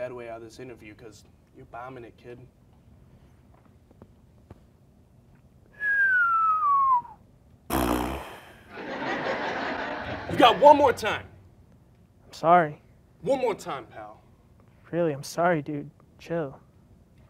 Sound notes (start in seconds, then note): 5.7 whistles; 5.8 raspberries; 8.7 crowd laughing